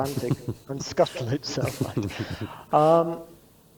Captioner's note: both laugh